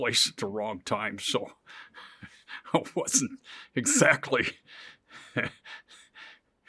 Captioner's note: laughs